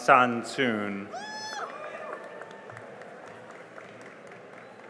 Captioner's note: cheering and applause